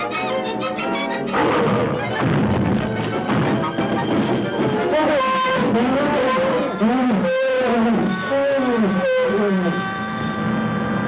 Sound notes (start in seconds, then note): 1.9 cart clatters; 5.0 elephants trumpeting